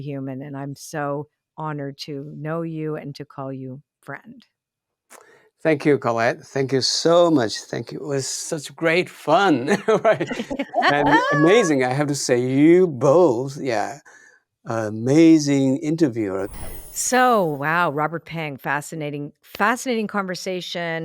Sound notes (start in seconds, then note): 9.2 all laughing; 16.4 magical chiming